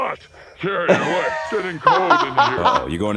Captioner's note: laughing